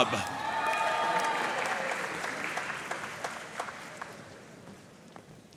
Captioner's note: audience cheering and applauding